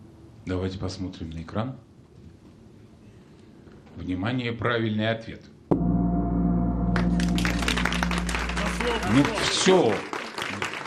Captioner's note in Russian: аплодисменты